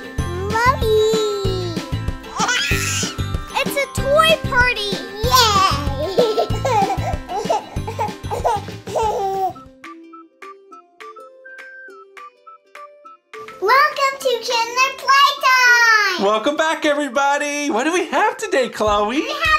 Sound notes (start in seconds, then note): 2.2 baby laughter; 5.2 children laughing